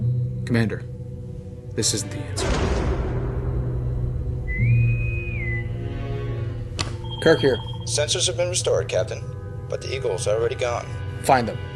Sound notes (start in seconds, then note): 4.4 bosun whistle